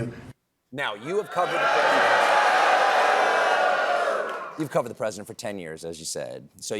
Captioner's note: booing